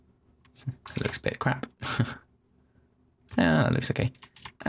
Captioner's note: chuckling